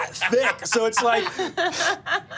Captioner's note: inhales